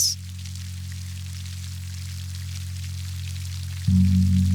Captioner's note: water bubbling